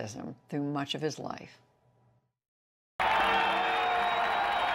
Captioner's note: cheering and applause